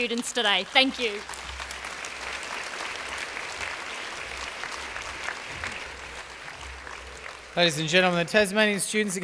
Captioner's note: applause